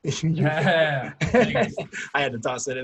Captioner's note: laughs